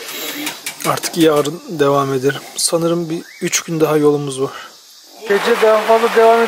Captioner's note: eating